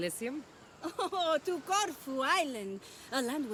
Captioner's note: laughing